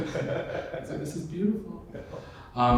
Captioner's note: laughter